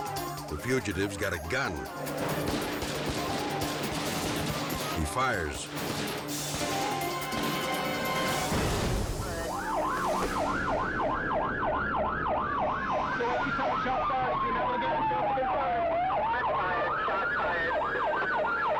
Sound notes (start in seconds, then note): 0.0 tense music; 2.0 gun firing; 2.1 tense music continues; 5.6 gun firing; 5.8 dramatic music; 9.7 sirens wailing; 18.5 sirens wailing